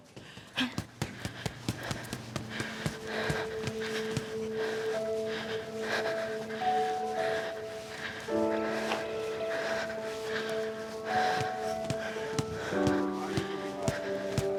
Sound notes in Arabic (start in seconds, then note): 0.2 قعقعة القفازات على كيس الملاكمة; 4.5 النفخ